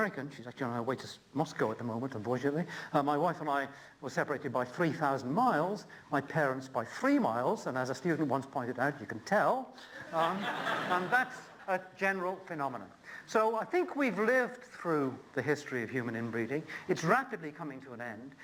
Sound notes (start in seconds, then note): 10.0 laughter